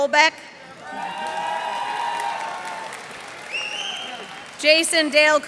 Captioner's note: cheers and applause